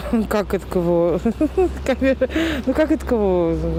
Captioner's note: laughing